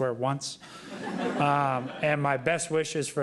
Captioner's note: laughter